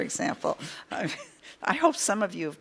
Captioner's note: chuckles